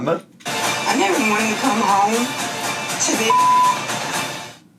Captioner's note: beep